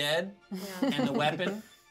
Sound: speaker chuckles

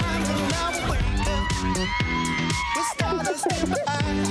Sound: girls cheering

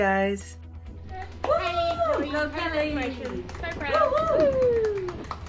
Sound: people cheering

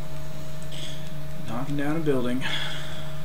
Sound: sighs

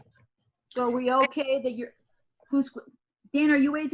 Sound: speaks faintly

